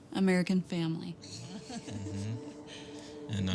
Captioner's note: chuckles